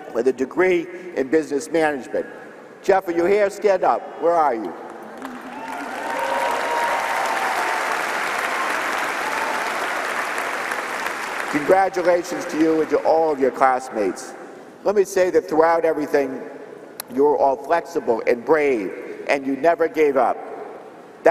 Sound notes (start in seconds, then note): 5.1 applause and cheering